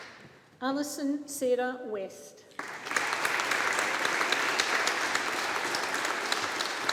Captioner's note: audience applauding